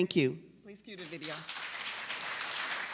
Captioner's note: applause